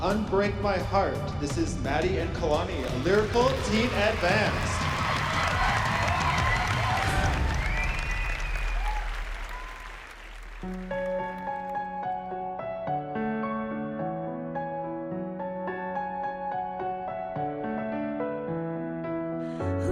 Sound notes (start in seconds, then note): 6.6 crowd cheering